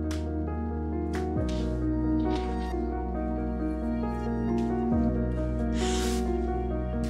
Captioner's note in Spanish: Sollozos